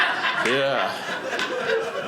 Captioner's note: audience laughing